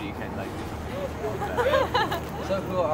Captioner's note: laughing